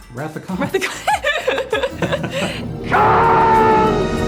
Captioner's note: laughs; dramatic music